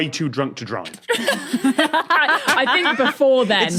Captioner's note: guests laughing